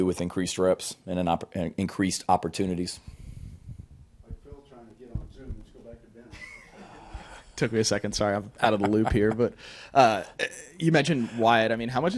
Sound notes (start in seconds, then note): 6.2 people giggling in the background; 8.6 Shane laughs